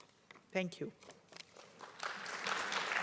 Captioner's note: applause